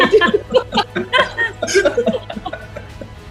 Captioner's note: laughing